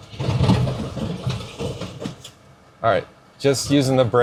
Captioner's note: truck thudding